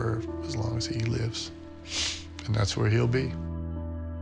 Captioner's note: sniffles